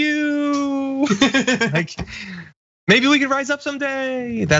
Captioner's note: laugh